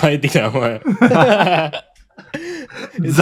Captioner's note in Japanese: 笑い